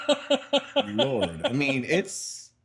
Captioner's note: laughing